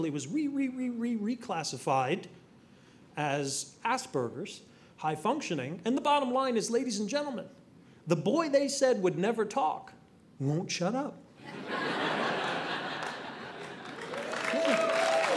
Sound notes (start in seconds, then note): 11.4 audience laughing; 14.3 audience clapping